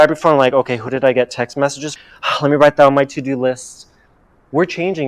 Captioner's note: sigh